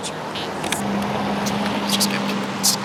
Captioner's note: car engine roars